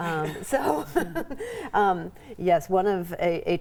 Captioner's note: laughing